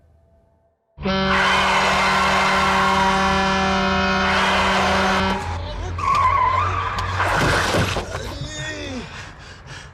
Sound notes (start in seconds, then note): 1.0 truck horn